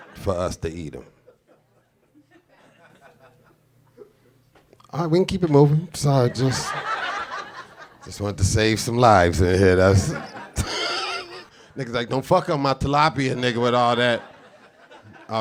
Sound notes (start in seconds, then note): 6.2 audience laughing; 10.0 laughs